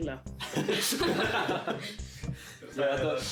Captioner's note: hahah